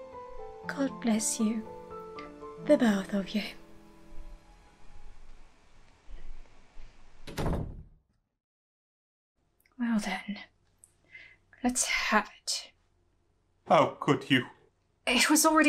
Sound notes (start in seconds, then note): 4.1 door opens and closes